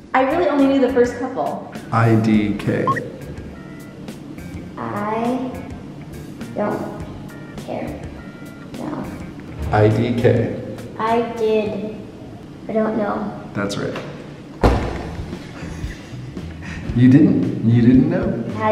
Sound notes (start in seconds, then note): 15.4 laughing